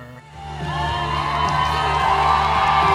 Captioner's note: audience cheering loudly